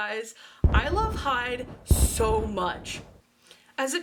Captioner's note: boom